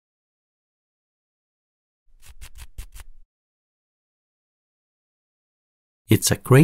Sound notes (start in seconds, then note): 2.2 scratching